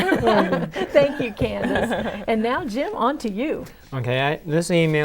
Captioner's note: laughing